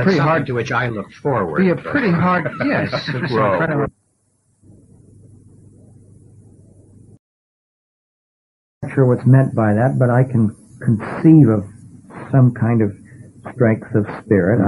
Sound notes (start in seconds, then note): 1.8 laughs; 3.9 video silence